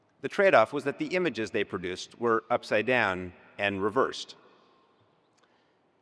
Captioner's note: none